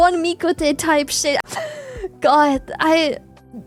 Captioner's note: laughs